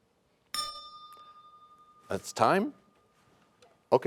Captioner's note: bell rings, time expires